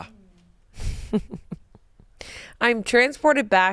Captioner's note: chuckles